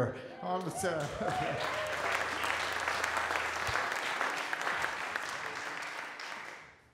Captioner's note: audience Applause